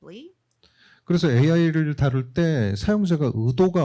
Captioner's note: speaking korean